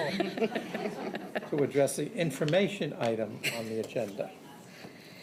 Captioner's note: laughter